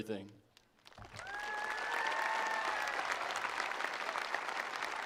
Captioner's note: attendees applauding